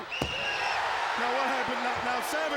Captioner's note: crowd cheering